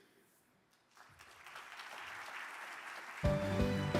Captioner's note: audience claps; upbeat music